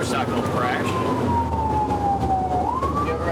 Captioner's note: siren wailing